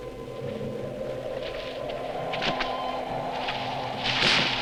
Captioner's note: somber music; wind whooshing; branches rustling